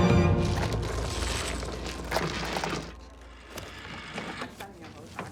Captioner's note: mahjong tiles clattering